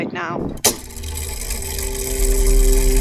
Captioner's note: mechanism Whirring